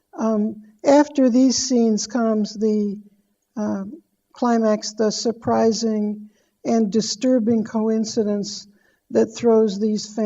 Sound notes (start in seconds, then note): none